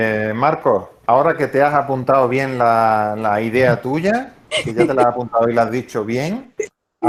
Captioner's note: risas